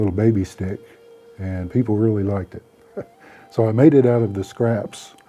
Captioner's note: laughing